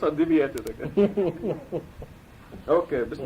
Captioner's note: laughter